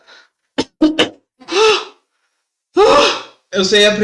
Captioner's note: cough; wheeze